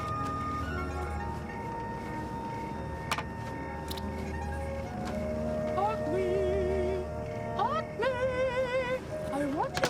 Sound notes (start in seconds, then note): 6.2 high pitched voice